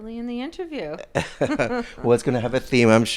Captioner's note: both laughing